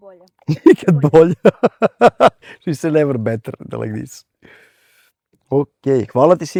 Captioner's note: laughs